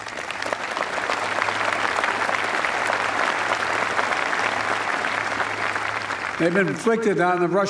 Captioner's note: applause